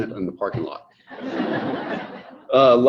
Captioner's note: audience laughing